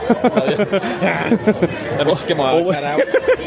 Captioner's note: laughs